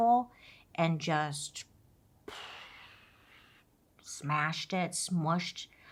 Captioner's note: exhales